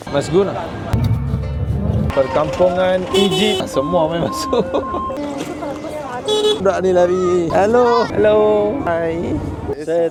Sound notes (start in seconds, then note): 4.4 laugh